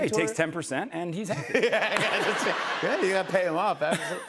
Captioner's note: laughter